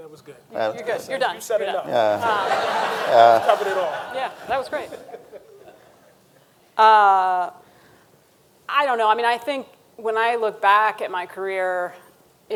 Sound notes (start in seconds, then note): 1.9 audience laughing; 5.6 panelist laughs